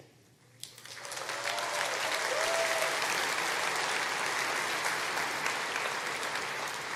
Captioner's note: applause